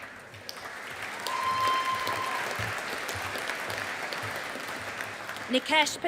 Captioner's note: audience applauding